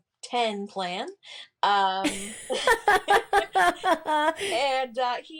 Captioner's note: laughs